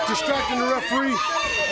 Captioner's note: crowd chatter